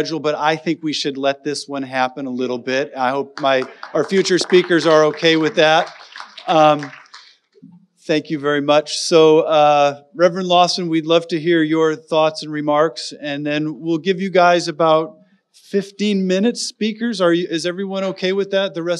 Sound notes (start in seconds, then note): 6.4 audience applauding